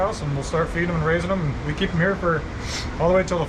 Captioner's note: none